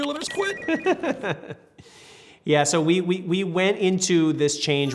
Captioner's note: laughs